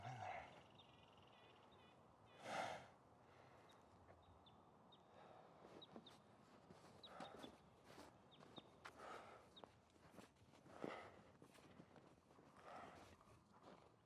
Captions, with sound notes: There's someone in there. (person breathing)